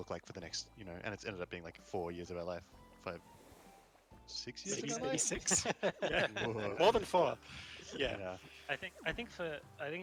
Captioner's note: laughter